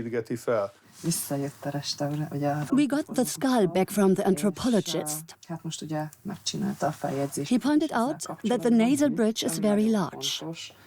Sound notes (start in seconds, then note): 0.7 speaks Hungarian; 2.6 dubbed in English